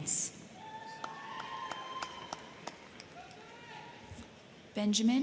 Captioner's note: crowd cheering; crowd clapping